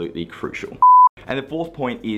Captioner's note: beep